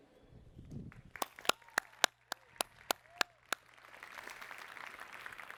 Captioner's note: applause